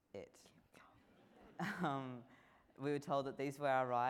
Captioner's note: laughing